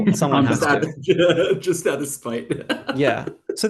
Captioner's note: laughs